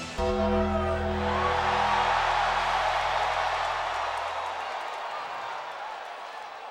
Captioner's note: ominous music; audience cheering